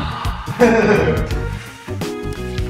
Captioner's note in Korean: 웃음소리